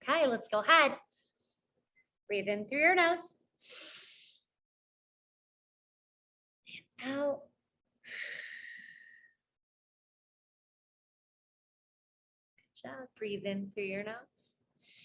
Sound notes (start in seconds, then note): 3.7 inhales; 8.1 exhales